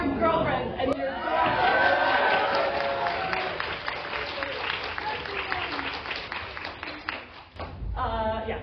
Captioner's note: cheering